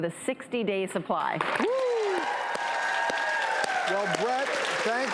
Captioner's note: audience applauds